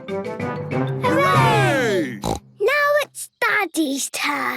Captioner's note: snort